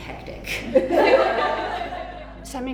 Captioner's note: laughter